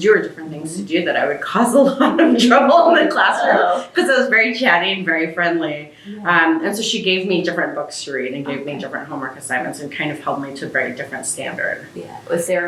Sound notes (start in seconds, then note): 1.9 laughter